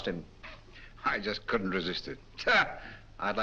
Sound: laughs

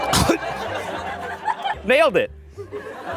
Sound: audience cheering; audience laughing; choking; audience laughs

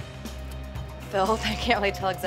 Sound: laughs

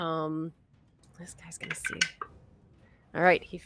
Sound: dice clatter

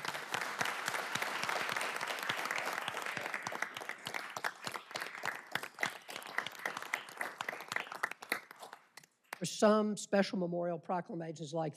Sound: applause

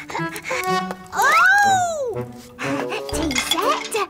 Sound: whimpers

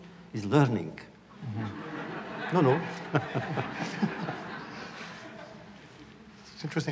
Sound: laughter

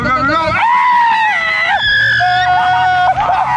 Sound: both scream

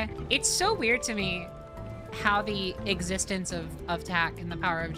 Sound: none

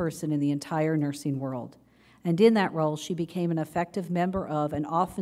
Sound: none

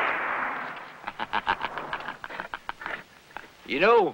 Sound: laughter

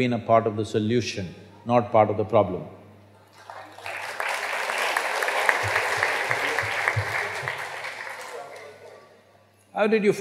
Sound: applause

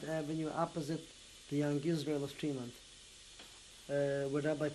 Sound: non-english

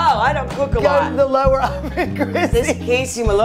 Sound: laughs

